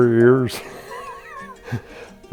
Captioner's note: laughing